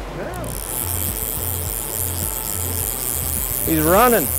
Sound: reel zipping

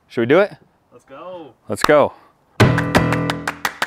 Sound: upbeat music; clapping

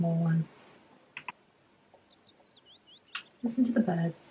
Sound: birds chirping

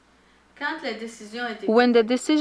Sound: speaking in foreign language

